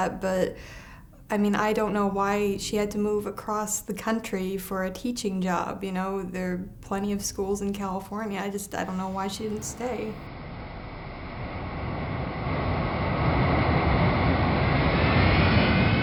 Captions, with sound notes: But, I mean, I don't know why she had to move across the country for a teaching job. You know, there are plenty of schools in California. I just... I don't know why she didn't stay. [plane taking off]